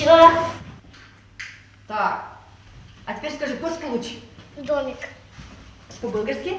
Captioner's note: <i>Ukrainian</i>